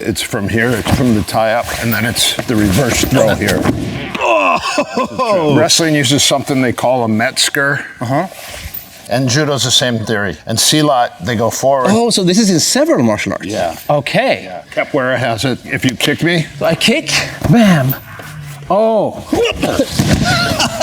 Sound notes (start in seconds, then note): 4.1 groans